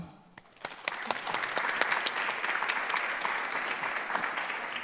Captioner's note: audience clapping